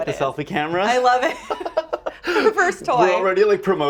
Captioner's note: both laugh